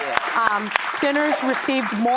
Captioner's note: audience applauding